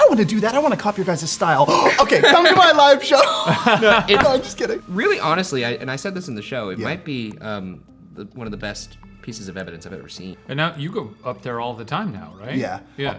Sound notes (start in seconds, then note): 1.6 gasps; 4.1 laughs